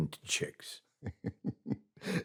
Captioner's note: laughs